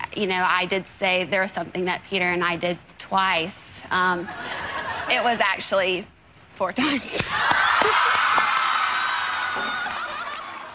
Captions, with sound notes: You know I did say there was something that Peter and I did twice, (audience laughing) it was actually, four times. (audience laughing)